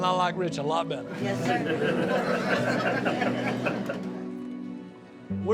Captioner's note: audience laughing